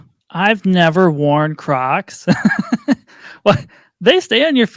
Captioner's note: laughs